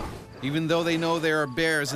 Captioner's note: voiceover